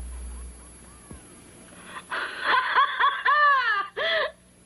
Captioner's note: laughs